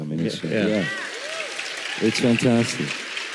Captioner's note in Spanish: aplausos